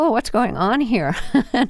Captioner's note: laughter